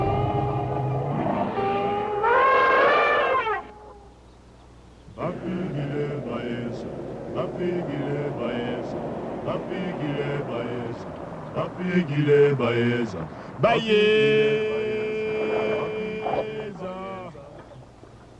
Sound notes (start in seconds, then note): 2.0 elephant trumpets; 5.0 men singing